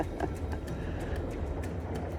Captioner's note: laughs